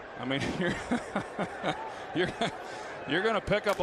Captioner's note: laughs